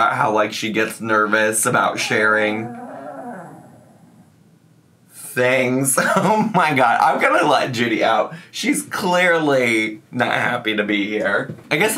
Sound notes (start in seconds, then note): 1.7 dog growling